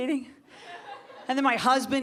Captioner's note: audience laughing